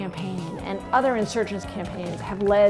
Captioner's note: crowd cheers and applauds